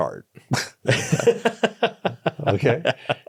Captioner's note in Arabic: يضحك